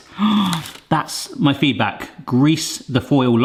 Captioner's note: gasps